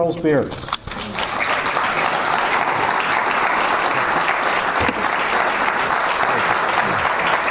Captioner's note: audience applause